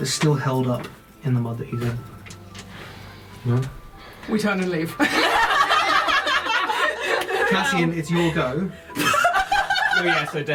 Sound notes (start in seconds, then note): 5.0 all laugh; 8.9 laughter